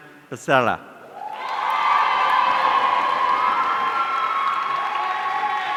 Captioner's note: audience cheering